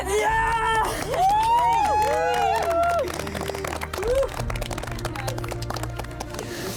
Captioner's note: cheering